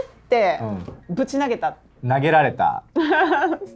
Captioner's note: laughs